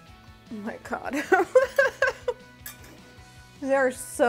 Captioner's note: laughs